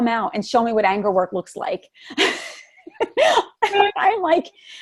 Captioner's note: laughs